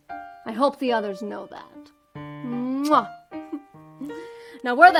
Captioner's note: chuckles